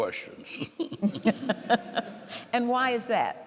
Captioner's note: laughing